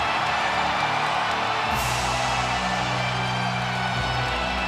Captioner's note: crowd cheering; creepy music continues